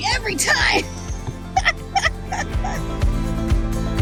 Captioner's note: laughing